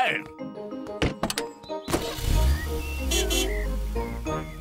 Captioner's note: horn honks